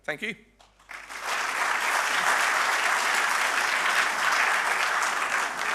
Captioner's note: audience applauding